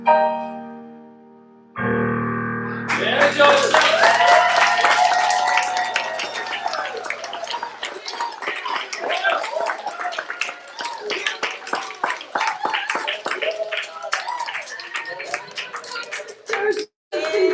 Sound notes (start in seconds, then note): 1.1 applause